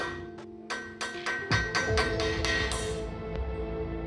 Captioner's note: hammering